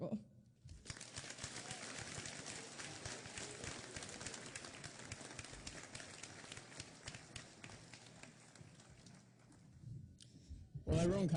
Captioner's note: applause